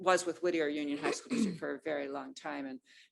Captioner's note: clears throat